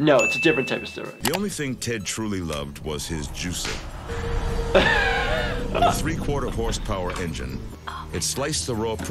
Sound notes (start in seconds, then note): 4.0 juicer whirring; 4.7 laughs